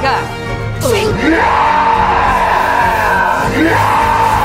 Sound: average nitro enjoyer scream

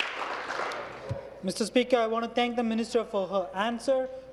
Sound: applause

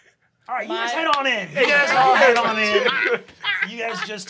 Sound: group laughs

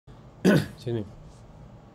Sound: coughs

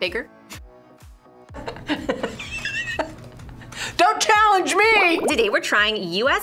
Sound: laughs

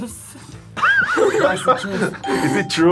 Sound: laughs

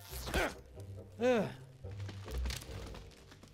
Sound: sighs

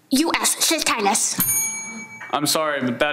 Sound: bell dings

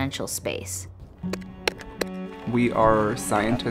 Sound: sounds of digging

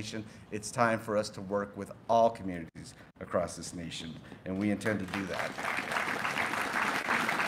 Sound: applause

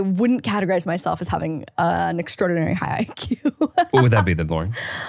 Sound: laughing

